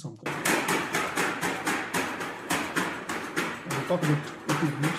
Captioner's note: clanking